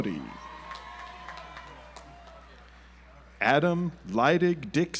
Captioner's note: audience applauds